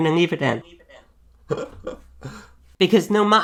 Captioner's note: laughs